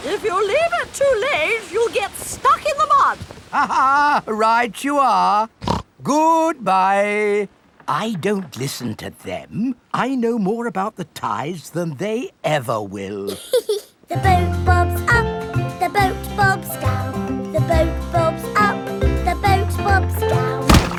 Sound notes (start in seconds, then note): 3.6 laughs; 5.6 snorts; 13.3 giggles; 20.6 thuds